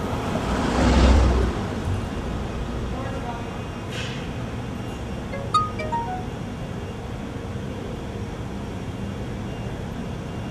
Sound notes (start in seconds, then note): 5.3 beeping